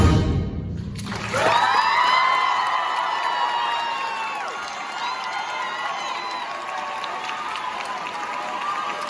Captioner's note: audience applause, cheering